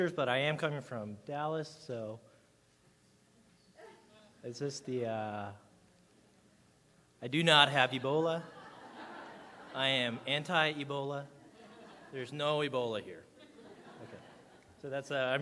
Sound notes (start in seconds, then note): 8.0 audience laughing